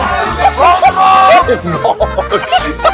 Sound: laughing

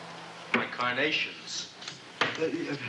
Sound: scissors clicking

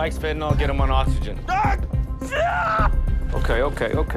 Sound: shouts

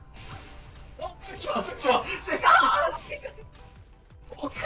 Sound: speaking Korean

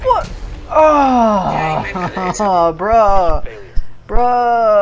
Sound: groans in annoyance

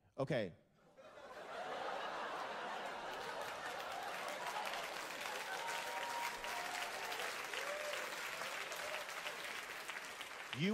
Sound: slow laughter and applause

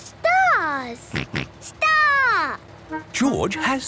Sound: snort

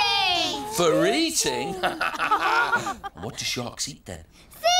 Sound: laughs

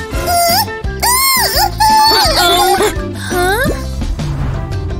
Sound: screams

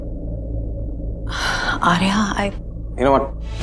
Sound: Ananya Gasps

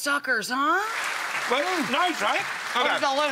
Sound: audience clapping

